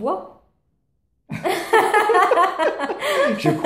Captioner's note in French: Rire aux éclats